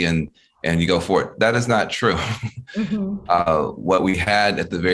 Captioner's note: laughing